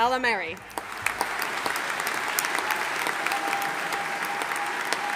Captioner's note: audience applauding